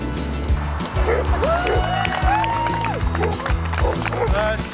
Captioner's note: supporters cheering and applauding